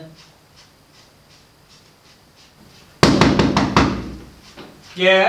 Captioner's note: knocking at the door